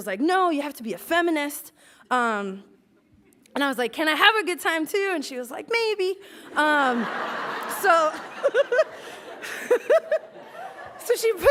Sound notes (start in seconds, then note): 8.1 laughs